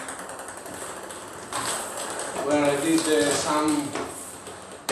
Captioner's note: ball ping pong hitting